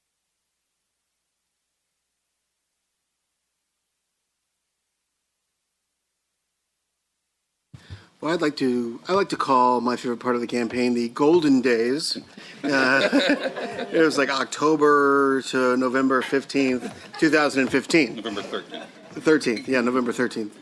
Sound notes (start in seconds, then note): 12.4 laughter